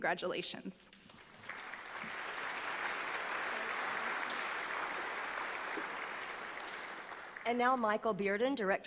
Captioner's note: applause